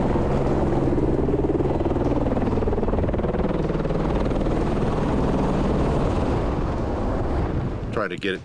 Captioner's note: helicopter whirring